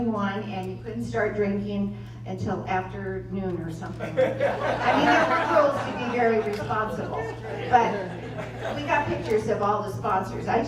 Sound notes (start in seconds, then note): 3.9 laughter